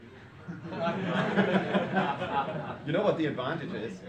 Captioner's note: students laughing